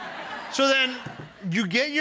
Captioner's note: audience laughs